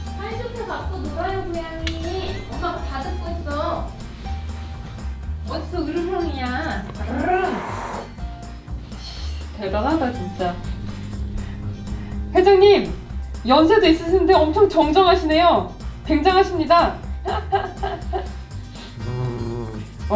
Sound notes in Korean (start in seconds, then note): 17.2 웃음